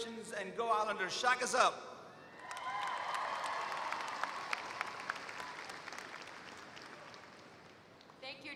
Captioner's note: applause